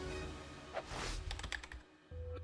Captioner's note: keyboard taps; soft dramatic music